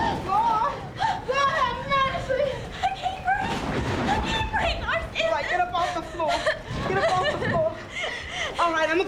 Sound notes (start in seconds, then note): 6.1 sobbing